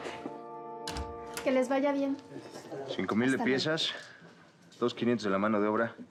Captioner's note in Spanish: sonido al abrir la puerta